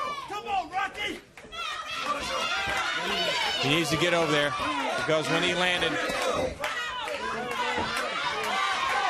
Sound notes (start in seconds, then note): 1.5 crowd chatter; 3.5 crowd cheering; 8.4 crowd chatter